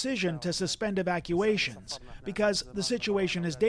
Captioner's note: speaking alternate language